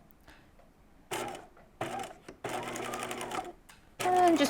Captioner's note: sewing machine whirring